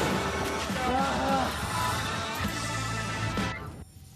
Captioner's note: groans